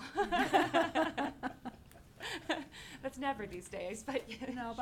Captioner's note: laughing